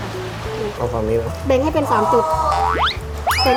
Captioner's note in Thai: เสียงร้อง